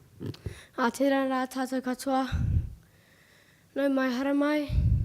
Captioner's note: speaking foreign language